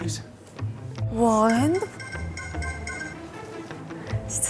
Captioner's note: alarm rings